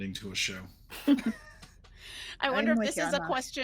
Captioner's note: people chuckling